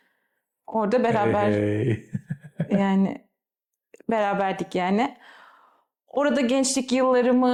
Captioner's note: laughter